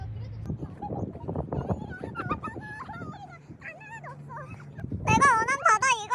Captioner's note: crying